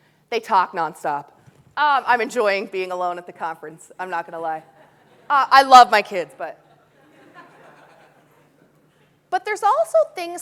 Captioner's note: audience laughing